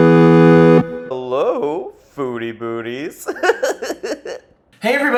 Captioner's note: upbeat music; giggles